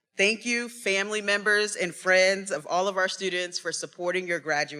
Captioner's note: none